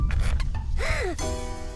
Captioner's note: Bob gasps